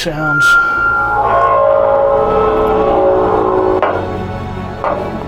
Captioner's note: metallic screaching